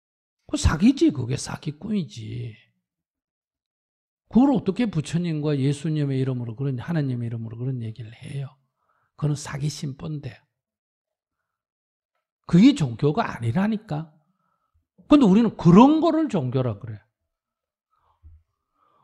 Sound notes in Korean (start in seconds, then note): none